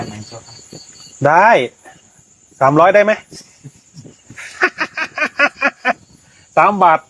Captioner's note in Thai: เสียงหัวเราะ